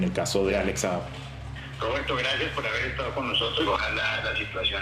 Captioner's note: on phone